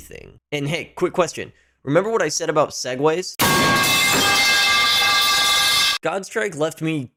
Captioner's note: pipe falling sound